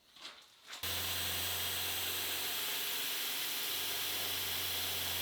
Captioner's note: machine whirring